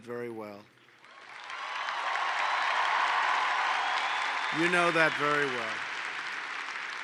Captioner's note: applause